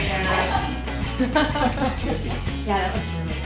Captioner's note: laughing